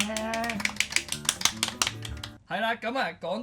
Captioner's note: clapping